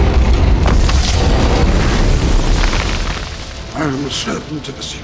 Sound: fire sizzling

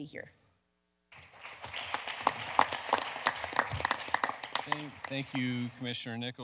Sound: audience applauding; panelists applauding

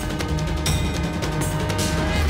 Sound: conch blows

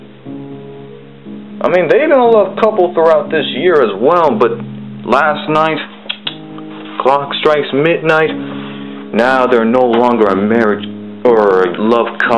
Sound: clicks tongue

